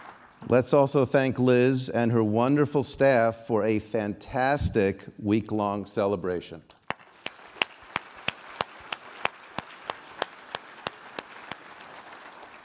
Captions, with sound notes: Let's also thank Liz and her wonderful staff for a fantastic week-long celebration. [APPLAUSE]